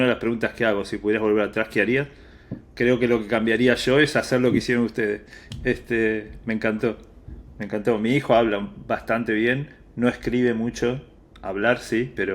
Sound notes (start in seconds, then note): 9.3 Spanish